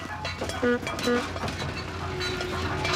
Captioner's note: car honks